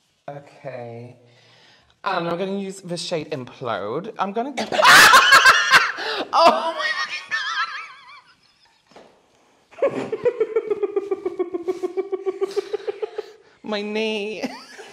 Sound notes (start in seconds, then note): 4.6 intense Scream; 9.8 cackling in the corner